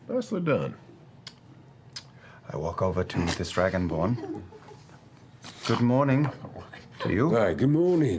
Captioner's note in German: schmatzend